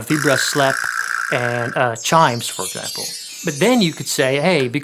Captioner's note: vibraslap rattles; chimes tinkling